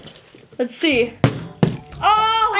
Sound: bottle landing

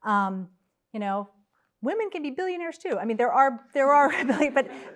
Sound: laugh

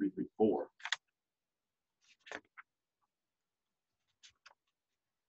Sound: pages flipping

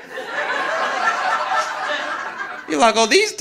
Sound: audience laughing

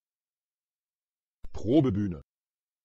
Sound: fast Pronunciation

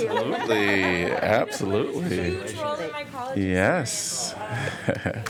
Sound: laughter

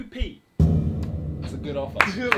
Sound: drum beats; all clapping

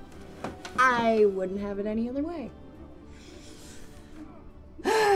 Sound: sighs

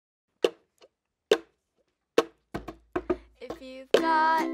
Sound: tapping

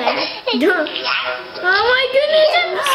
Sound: laughing

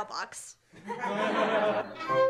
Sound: laughter

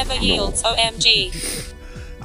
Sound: sniff

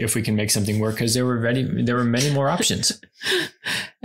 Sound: laughs

